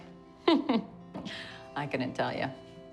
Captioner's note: laughs